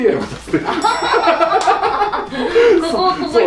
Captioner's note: hahahahahahahahahaha